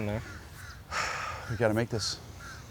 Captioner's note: sighs